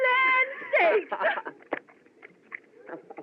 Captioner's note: laughs